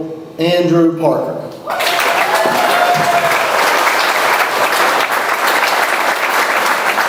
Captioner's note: audience applauds; audience cheers